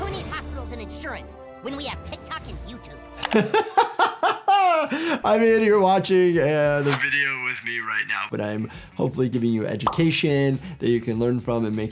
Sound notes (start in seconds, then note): 0.0 bright music; 3.2 laughs